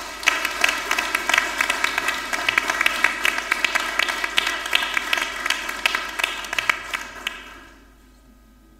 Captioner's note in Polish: oklaski